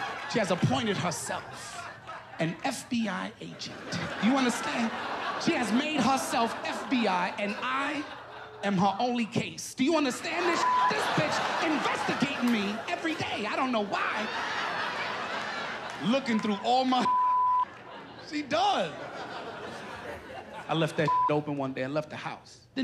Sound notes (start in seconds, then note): 14.8 laughter